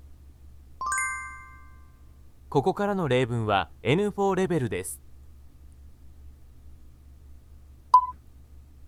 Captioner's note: Japanese audio